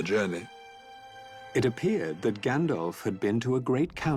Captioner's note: narrator reading on-screen text